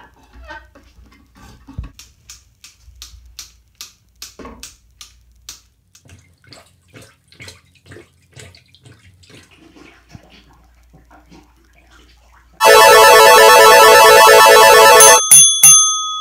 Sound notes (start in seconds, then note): 6.0 plunger noises; 12.6 slot machine noise